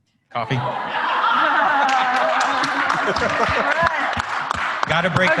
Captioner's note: applause